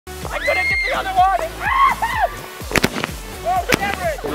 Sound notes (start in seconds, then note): 0.1 upbeat music begins; 0.3 everyone screams